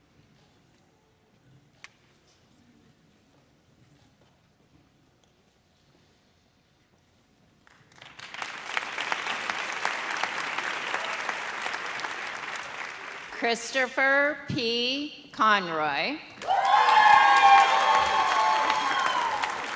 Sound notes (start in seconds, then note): 7.9 audience applauds; 16.4 audience cheers